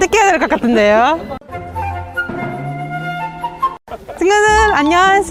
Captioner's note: just laughs LOL